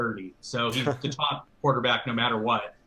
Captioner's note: laughs